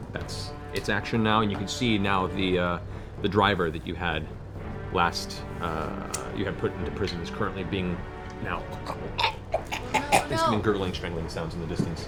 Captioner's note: choking